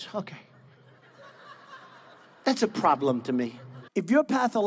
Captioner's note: laughing